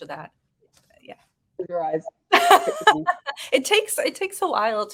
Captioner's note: woman laughing